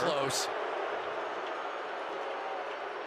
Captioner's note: booing